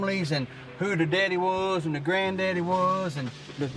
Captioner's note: trees rustling